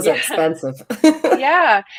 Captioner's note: chuckles